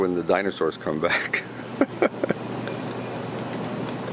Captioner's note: laughing